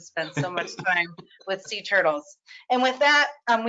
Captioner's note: laughs